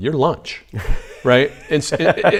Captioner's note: laughs